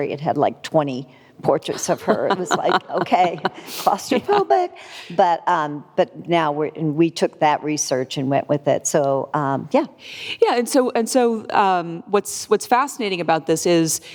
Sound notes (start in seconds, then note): 1.7 laughing